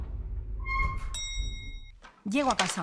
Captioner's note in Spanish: Pitido de ascensor